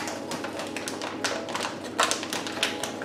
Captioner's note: packaging rustles